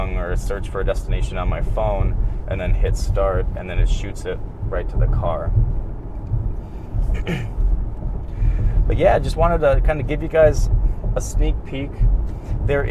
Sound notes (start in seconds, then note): 7.1 clears throat